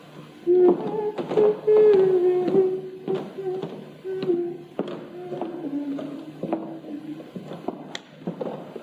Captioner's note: humming a Dutch lullaby, “Ik ga slapen, ik ben moe”